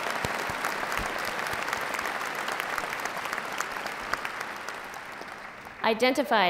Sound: applause

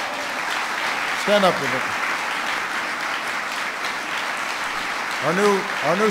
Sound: applause

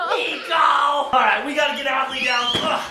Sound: laughing; grunts; screaming

